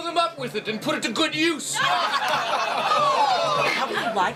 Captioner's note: laughter